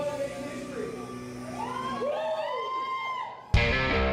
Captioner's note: cheering; rock music